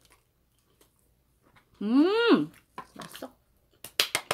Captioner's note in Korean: 으음